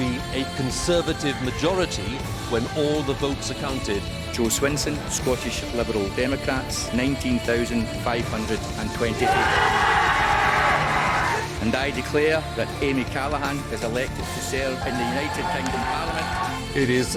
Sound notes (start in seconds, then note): 9.1 cheers